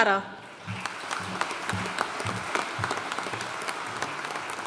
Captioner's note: audience applauding